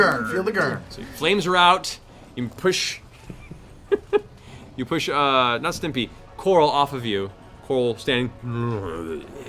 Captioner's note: groan